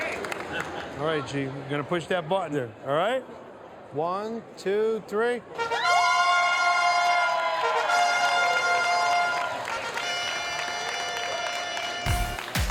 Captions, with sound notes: Alright G, you're going to push that button there. One, two, three. (crowd cheers) (trumpets play)